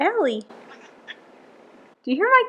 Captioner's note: squawks some more